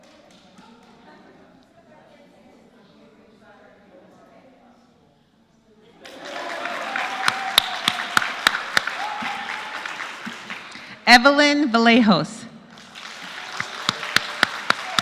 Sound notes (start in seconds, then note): 3.9 applause; 14.3 applause